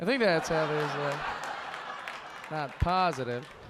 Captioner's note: audience laughing